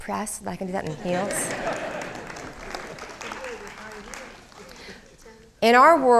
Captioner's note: crowd laughing and applauding